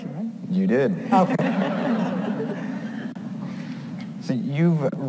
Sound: audience laughs

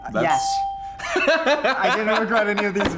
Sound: laughs

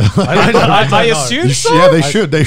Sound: laughs

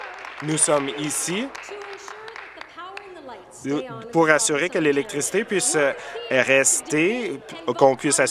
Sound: applause

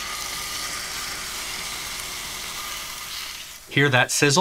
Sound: steak sizzling

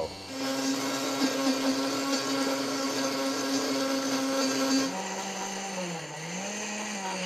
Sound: blender whirring

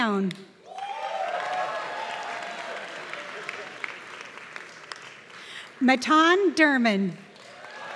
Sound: applause; applause

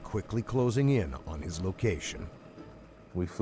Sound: voiceover

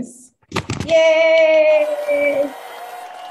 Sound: audience applauding

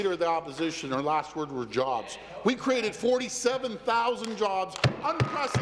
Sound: applause

